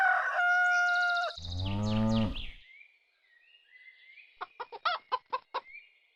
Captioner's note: rooster crowing; birds chirping; cattle mooing; chickens clucking